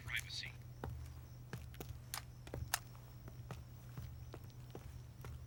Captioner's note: footsteps thudding